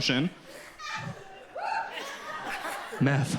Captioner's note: audience laughs